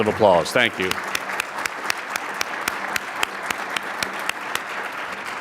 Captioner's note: audience applauds